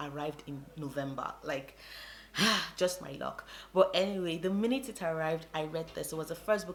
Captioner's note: sigh